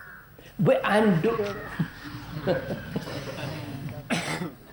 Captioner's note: laughs